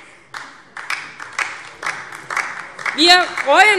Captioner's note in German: Beifall DIE LINKE